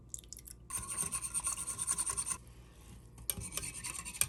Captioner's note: whisk scraping